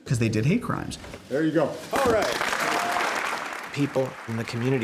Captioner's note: applause